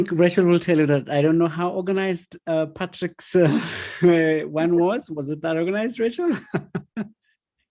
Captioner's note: aughs